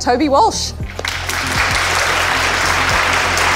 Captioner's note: applause